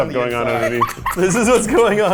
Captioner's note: laughing